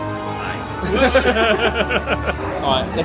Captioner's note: laughs